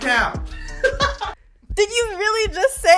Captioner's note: laughs